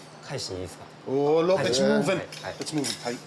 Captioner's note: speaks Japanese